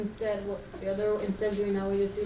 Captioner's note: voiceover